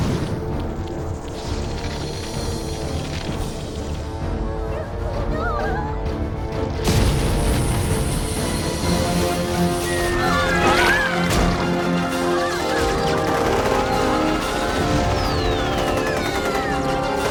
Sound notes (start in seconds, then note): 4.3 Cells Whimpering; 9.6 bombs Whistle; 9.7 whimpering Continues; 11.5 machine Gun Fire